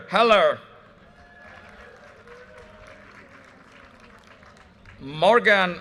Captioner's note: audience cheers and applause